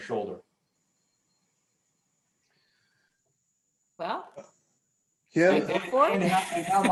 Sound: laughter

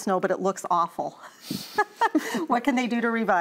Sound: laughter

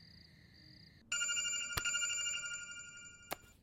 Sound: phone rings

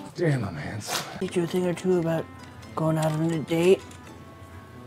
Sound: music cuts off; old man voice

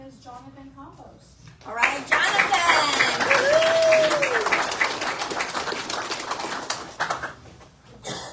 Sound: audience applauds

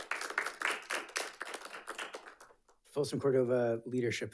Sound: audience applauding

